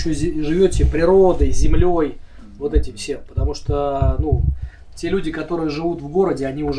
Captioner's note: speaking Yakut